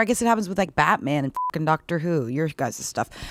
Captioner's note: beeping